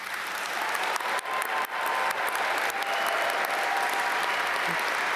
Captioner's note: audience cheer and applaud